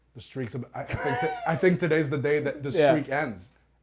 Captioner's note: laugh